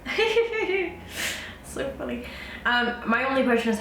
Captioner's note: laughs